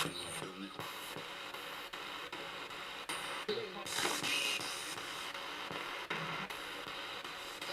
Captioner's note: sound of the Spirit Box in the background